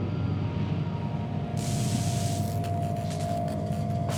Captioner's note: electricity crackling